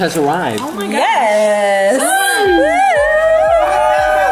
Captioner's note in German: Familienjubel